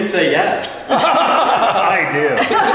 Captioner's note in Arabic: يضحك